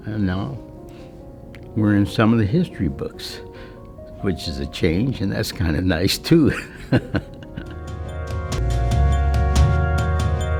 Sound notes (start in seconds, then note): 6.4 chuckling